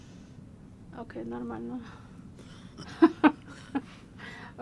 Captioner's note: laughing